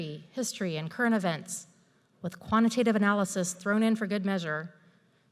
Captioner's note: none